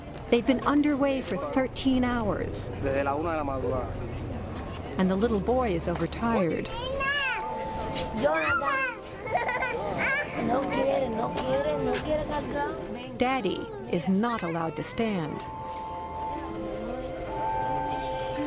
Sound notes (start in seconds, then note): 5.6 giggling; 9.1 speaking spanish